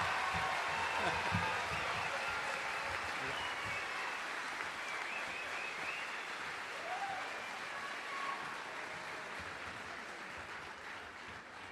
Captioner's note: cheering and applause